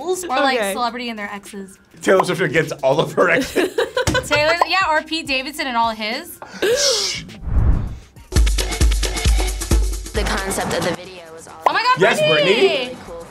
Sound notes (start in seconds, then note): 3.5 laughing; 7.9 upbeat music